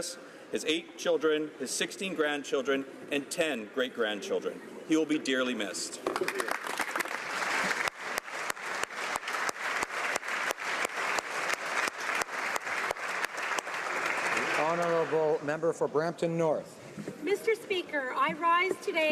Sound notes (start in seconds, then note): 12.8 applause